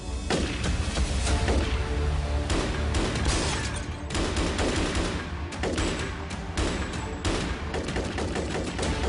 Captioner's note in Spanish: Disparos